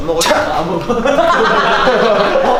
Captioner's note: shocked